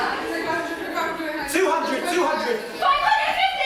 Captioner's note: shouting